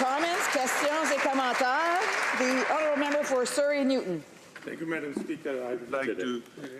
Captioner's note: applause